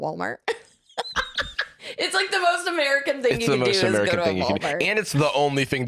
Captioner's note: laughs